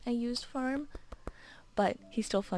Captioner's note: tap tap